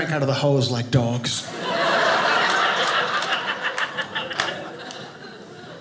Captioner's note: audience laughing